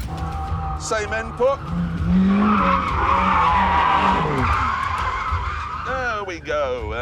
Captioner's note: tyres screeching